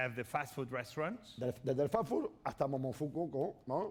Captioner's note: speaking spanish